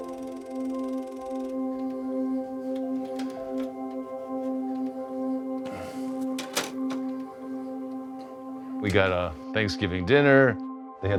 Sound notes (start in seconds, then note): 5.6 sighs